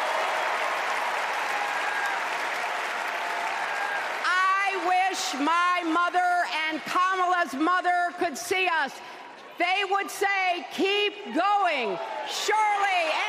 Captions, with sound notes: WELL, MY FRIENDS, THE FUTURE IS HERE! [ APPLAUSE ] I WISH MY MOTHER AND KAMALA'S